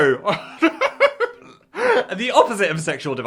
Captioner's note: Phil laughs